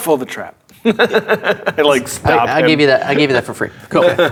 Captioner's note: laughing